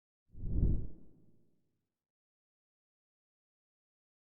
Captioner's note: air whooshing